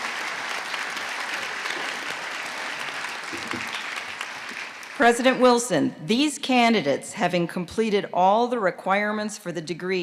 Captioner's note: applause